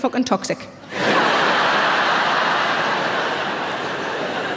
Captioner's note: audience laughs